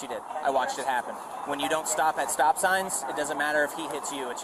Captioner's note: radio chatter